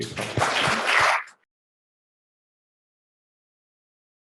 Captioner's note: panel and audience applause